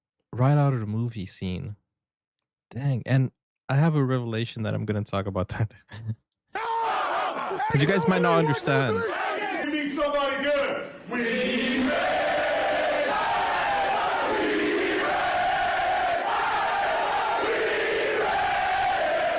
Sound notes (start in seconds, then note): 6.5 screaming; 16.4 cheering